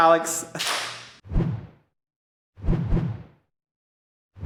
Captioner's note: clapping